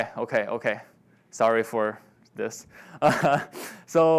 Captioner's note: laughs